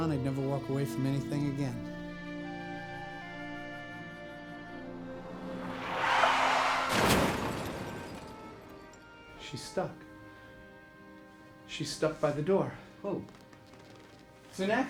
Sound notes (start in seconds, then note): 2.8 gentle orchestral music; 6.2 tires squealing; 7.1 crashing